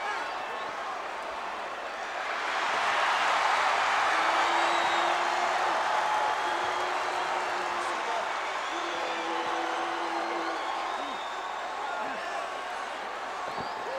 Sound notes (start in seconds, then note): 3.0 crowd cheers